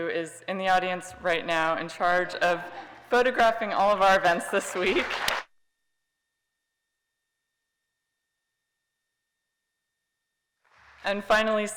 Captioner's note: applause